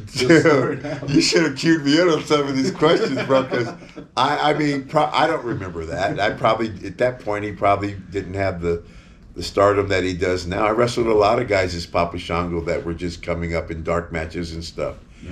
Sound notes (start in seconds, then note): 0.0 laughs; 2.2 interviewer laughing